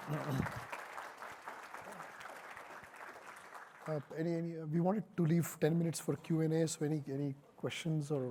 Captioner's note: applause